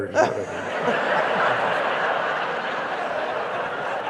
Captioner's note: audience laughing